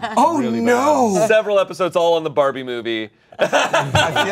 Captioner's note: laughs